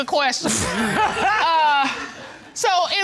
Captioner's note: laughter